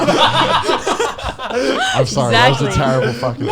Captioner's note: laughs